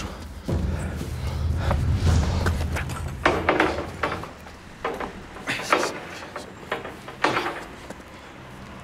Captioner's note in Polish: odgłosy ciężkich zmagań fizycznych